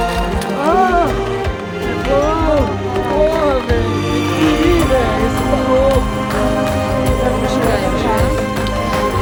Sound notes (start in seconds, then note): 1.9 cheering and celebrating in portuguese